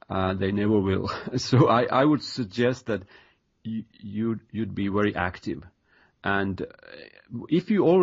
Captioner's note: chuckle